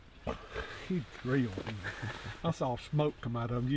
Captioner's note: laughing